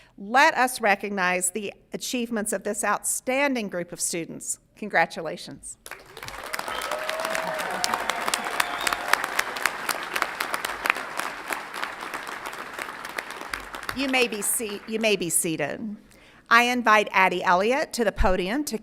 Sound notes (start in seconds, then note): 5.8 audience applauds and cheers